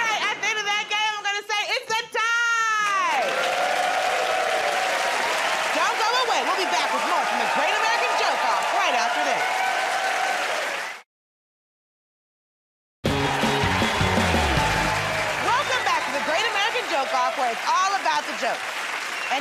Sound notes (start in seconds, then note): 2.7 cheers and applause